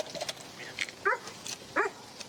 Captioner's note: dog barks